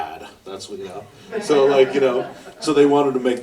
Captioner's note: audience laughter